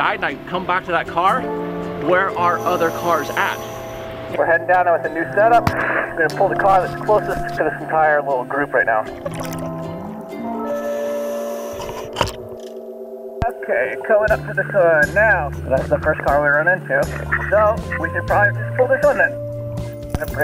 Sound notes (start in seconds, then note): 9.4 water bubbles; 10.6 air hisses